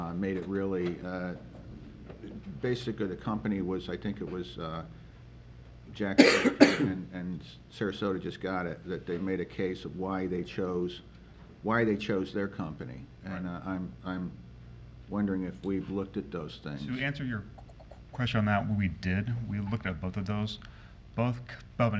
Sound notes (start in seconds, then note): 6.1 member coughs